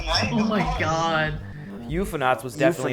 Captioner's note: chuckles nervously